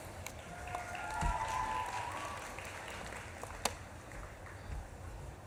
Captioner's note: audience claps and cheers